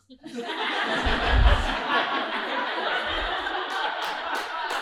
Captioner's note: audience laughing